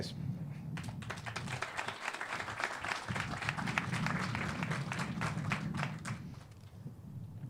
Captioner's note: clapping